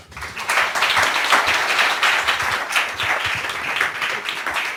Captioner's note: audience clapping